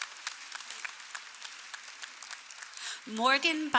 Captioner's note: applause